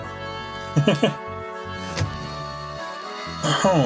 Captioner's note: chuckles